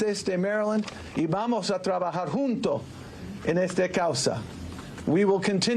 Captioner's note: speaking in spanish